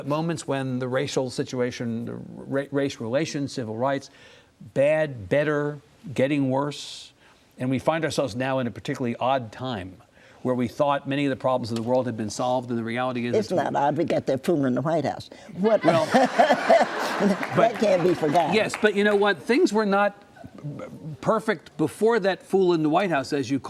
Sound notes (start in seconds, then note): 15.7 audience laughs